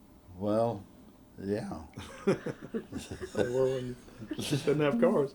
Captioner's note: laughter